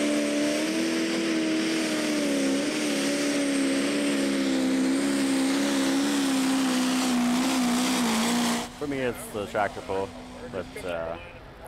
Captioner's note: tractor engine running